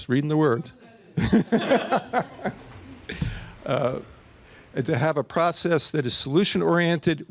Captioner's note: laughter